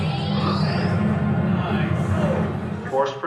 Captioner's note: dramatic music; bomb explodes